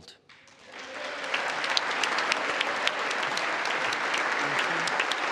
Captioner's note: congress applauding